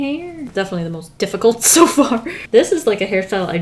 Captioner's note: laughs